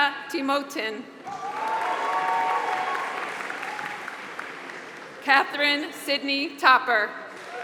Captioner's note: applause; applause